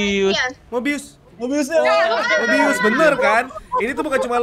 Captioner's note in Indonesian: Bersorak